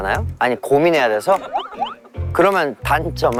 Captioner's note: muted agreement